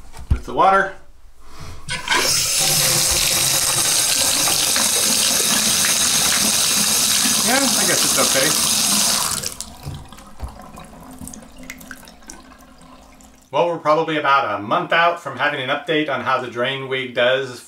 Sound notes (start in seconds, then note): 2.1 water runs; 9.3 water drains